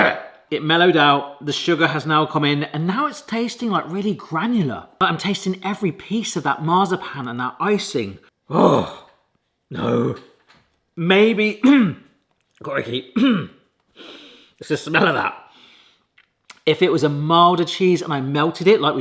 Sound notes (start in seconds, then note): 13.9 sniffs